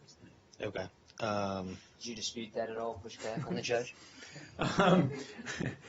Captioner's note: laughter